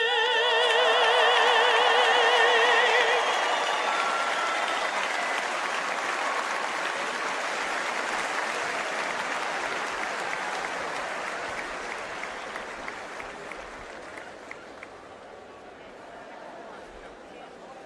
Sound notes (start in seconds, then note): 0.0 applause; 2.8 cheers and applause